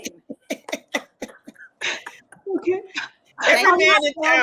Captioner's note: all laughing